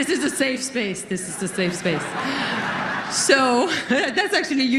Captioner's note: laughter